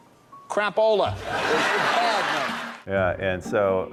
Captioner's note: audience laughs